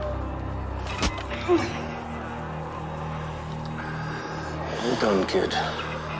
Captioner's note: knife whooshing; Caroline groans